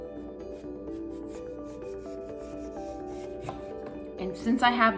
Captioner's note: knife scraping